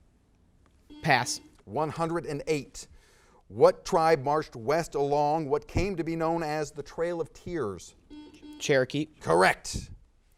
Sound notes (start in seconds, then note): 0.9 buzzer beeps; 8.1 buzzer beeps